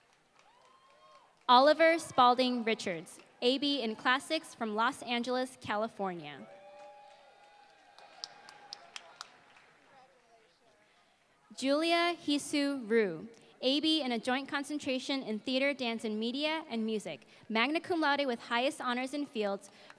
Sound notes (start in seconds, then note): 6.5 applause